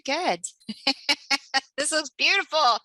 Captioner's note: laughter